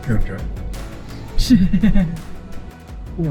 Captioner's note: laughter